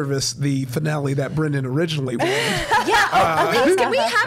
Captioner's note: laughing